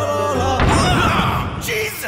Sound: explosion; screaming

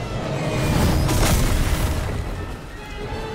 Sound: loud crash

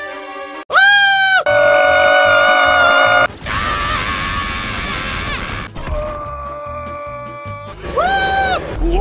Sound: screams

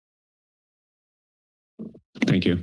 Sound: mic thumps

